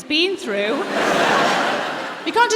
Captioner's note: laughter